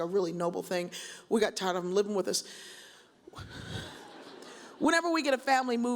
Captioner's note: chuckles